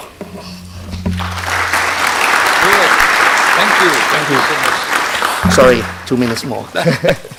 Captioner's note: round of Applause